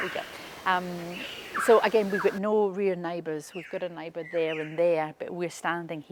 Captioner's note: birds chirping